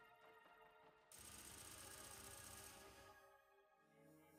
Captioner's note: gun shots